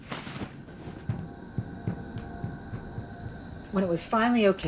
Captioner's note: footsteps thudding